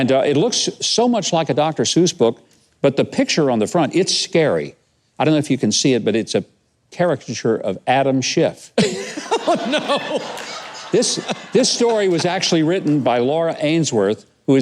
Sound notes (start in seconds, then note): 8.9 laughs; 8.9 audience laughs